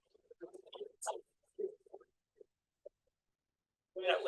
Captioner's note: audio warbles